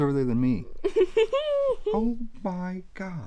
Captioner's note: laughs